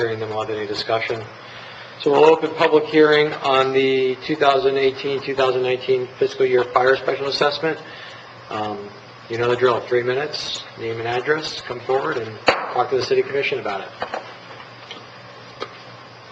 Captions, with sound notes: and log any discussion. So we'll open the public hearing on the 2018, 2019 fiscal year fire special assessment. You know the drill, three minutes, name and address, come forward and (gavel striking) talk to the city commission about it.